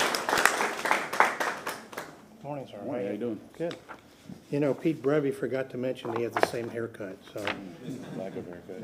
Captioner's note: applause